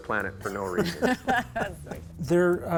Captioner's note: both laugh